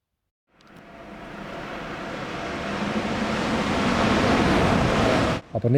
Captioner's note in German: Zuglärm